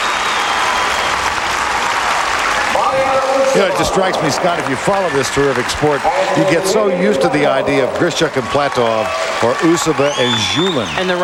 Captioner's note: crowd cheering